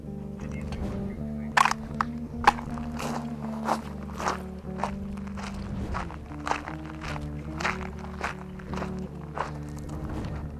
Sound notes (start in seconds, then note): 3.7 footsteps crunching